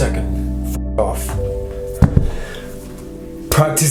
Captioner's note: swearing